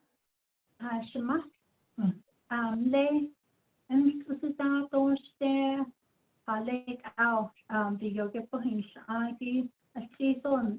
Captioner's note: speaking in Diné